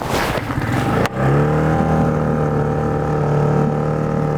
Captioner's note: boat engine starts